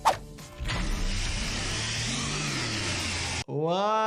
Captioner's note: blade whirring